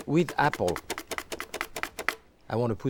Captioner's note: mandoline slicing